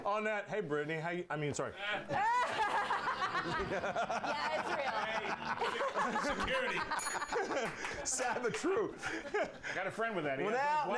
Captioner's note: bell rings; laughter